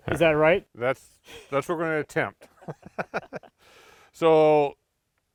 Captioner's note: laughs